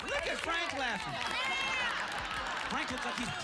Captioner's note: laughter